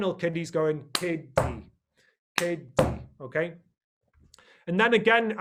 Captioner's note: makes a clap sound and slaps his hand on a table